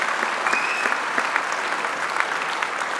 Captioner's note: applause